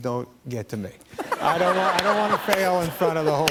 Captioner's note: laughter